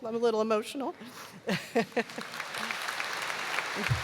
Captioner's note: applause